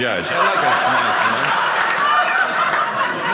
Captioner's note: audience laughing